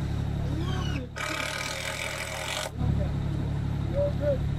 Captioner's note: screw gun spinning